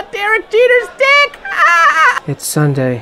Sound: seal-like laugh

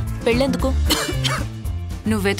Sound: coughs

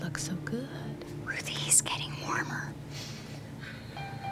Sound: whispering

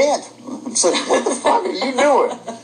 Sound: laughter

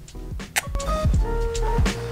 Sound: kisses

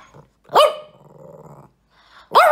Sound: ruff; growl; ruff ruff ruff

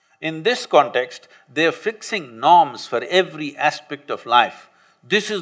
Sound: none

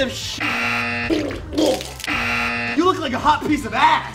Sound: buzzer goes off; makes retching noises; buzzer goes off

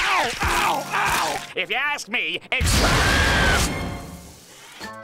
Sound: screaming

